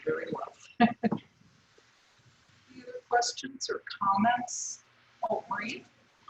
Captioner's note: laugh